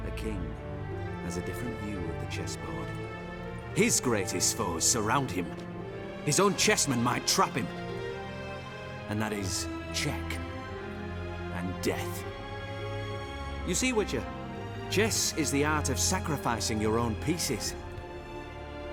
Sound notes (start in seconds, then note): 4.2 normal voice